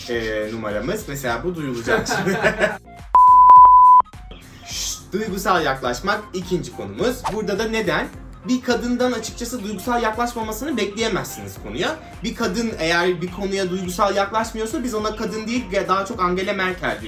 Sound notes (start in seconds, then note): 2.0 laughing